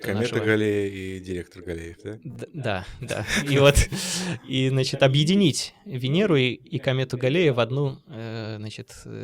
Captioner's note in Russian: смех